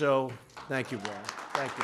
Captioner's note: applause